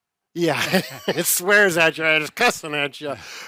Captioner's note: chuckles